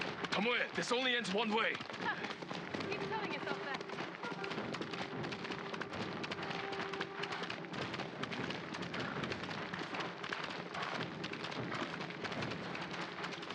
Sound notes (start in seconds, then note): 4.0 laugh